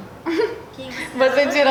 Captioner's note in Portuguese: risos